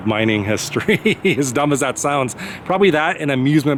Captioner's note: laughs